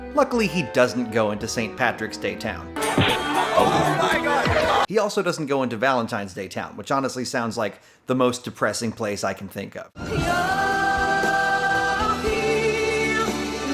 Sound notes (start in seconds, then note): 2.8 irish folk music; 2.9 punching sound effects